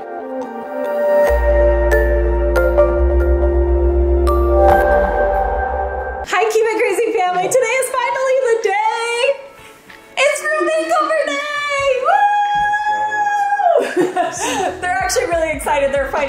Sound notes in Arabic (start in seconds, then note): 0.2 موسيقى هادئة; 11.2 أمي تهتف